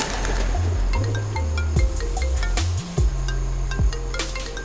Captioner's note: phone ringing